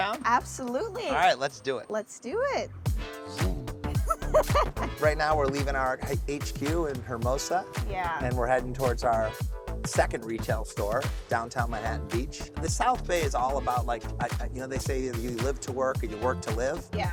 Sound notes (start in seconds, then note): 3.1 upbeat music; 3.9 laughs